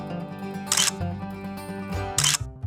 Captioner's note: camera clicking; camera clicking